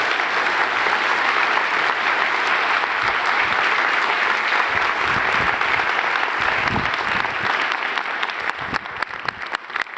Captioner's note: applause